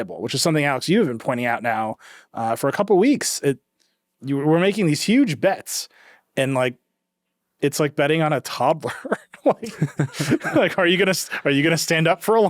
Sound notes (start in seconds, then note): 8.8 chuckling